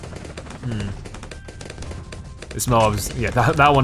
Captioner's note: weapons firing